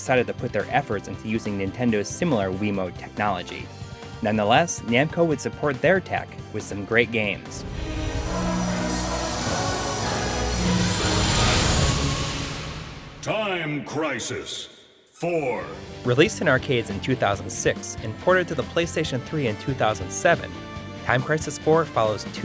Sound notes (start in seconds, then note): 10.4 game audio